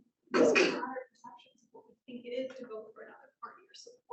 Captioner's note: speaking faintly